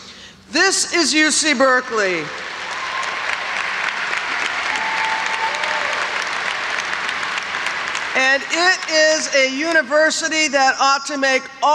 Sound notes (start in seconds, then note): 2.4 audience applauds